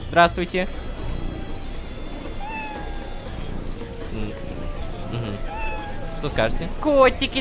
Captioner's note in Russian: Мяуканье и мурчание